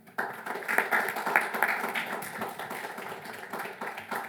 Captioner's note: audience applauding